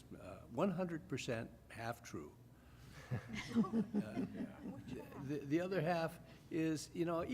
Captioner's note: laughter